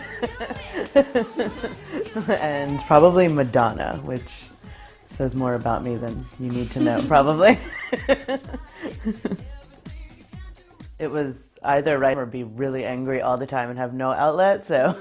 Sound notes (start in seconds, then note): 0.0 laughs; 6.4 laughs